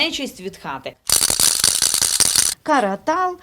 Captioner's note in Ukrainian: Звучить тріскачка